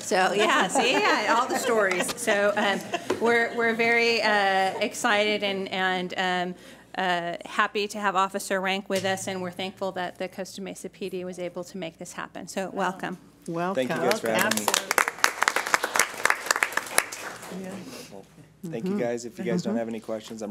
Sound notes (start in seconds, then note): 13.9 applause